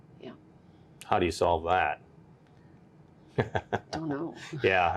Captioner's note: laughs